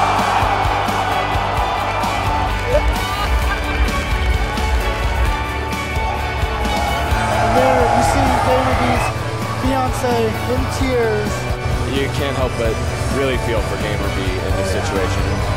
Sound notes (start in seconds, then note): 0.0 crowd cheering; 2.6 happy sobs; 3.3 crowd Cheering